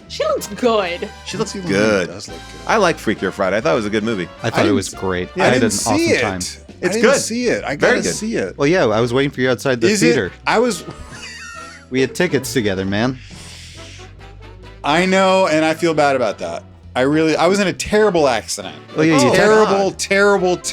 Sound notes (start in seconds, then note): 9.8 laughs; 13.3 lively music